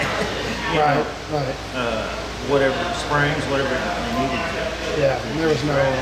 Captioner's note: laughing